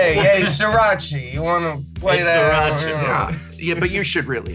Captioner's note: mocking noises